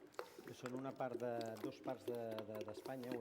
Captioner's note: non-english speech